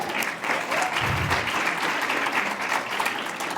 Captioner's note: applause